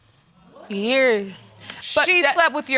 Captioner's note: audience exclaiming